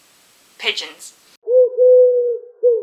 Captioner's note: pigeon noise